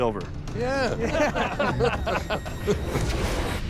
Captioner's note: laughter